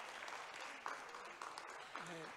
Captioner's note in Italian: Applauso